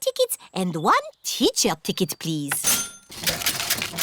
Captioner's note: cash register dings